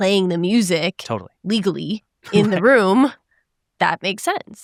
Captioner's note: chuckles